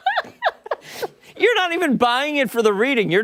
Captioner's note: laughter